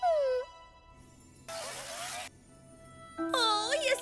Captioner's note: whimpering; glitching